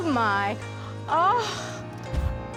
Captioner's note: incredulous